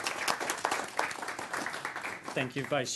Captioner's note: clapping